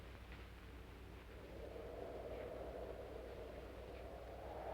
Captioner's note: wind howling